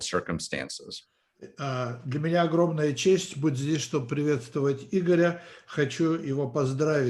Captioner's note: translator speaking Russian language